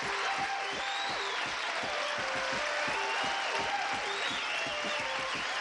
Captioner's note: applause